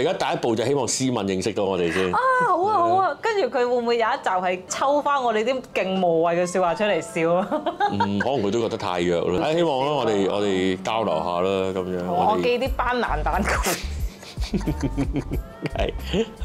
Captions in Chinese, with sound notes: 第一步 希望詩敏認識我們 好啊好啊 她會否在一集裡抽出我們說過的無聊話來取笑 她或會覺得我們太弱 希望有機會交流一下 我寄班蘭蛋糕給她（忍笑）